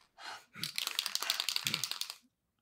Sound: spray paint can shaking

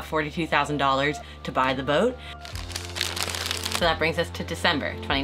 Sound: paper crinkling

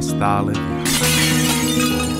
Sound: falling Plates crashing

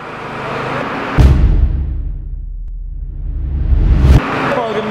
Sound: dramatic sound

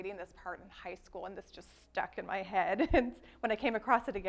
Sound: laughs

